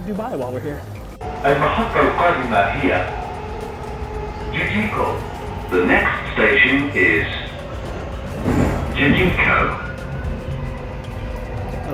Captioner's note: arabic announcements